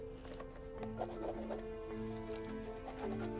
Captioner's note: scribbling